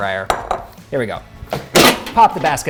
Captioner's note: basket clanging